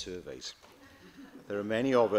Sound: laughter

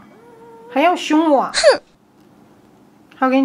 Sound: cats

